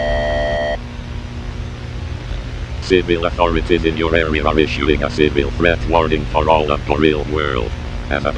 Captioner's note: lingojam tts voice